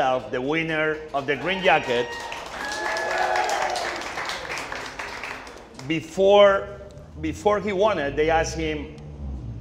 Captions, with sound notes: the winner of the green jacket, (audience cheering) before, before he won, they asked him